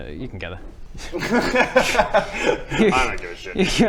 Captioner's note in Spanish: risas